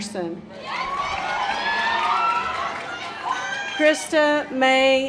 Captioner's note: audience applause